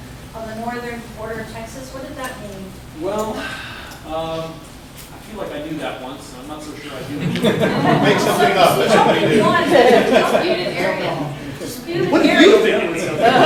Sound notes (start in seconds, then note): 6.9 laughs